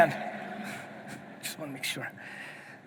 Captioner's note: audience laughing